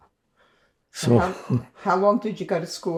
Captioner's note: laughing